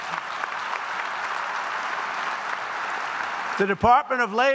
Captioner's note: applause